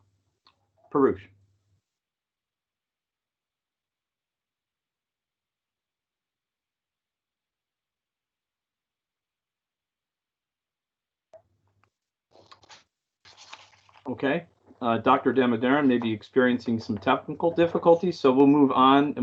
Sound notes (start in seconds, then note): 4.3 microphone muted